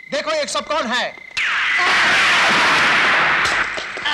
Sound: gunshot; gunfire

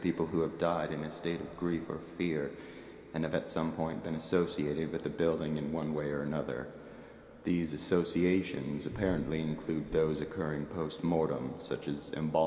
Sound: exhales

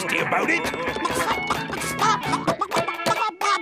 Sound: clucking

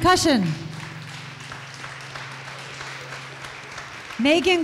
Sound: audience applause

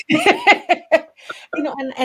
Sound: laughs

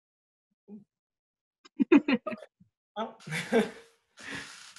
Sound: giggle; little laugh

